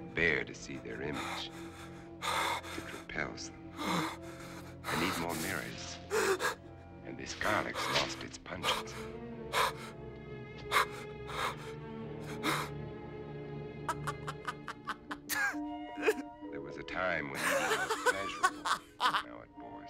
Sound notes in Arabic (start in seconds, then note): 8.6 شهقات مخيفة; 13.8 يضحك; 17.3 يضحك; 17.4 بكاء